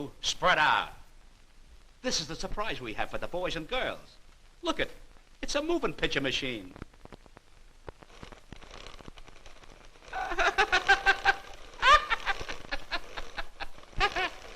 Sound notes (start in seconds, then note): 8.0 whirring; 10.1 laughing